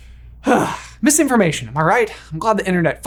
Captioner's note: sighing